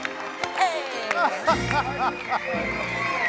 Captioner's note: laughter; applause